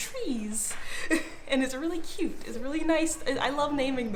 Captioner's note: giggling